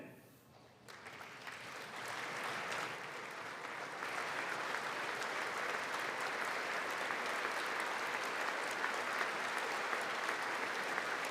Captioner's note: applause